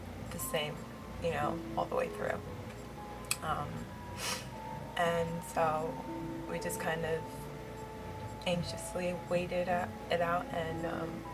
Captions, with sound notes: the same, you know, all the way through Um *sniffs* and so we just kind of anxiously waited it out and, um,